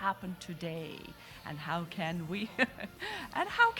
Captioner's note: laughing